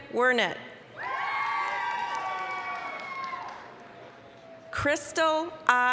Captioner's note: applause, cheering